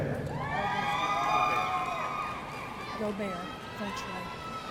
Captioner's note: audience cheering